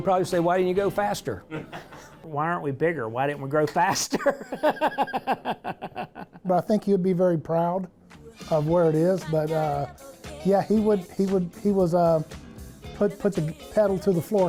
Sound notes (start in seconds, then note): 4.0 laughs